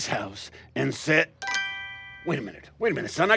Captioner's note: chime